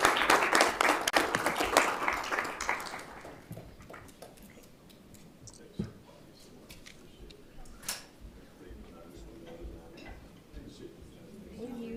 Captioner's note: applause